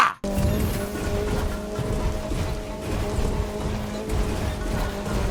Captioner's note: engine roaring